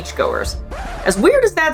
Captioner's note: record scratch sound effect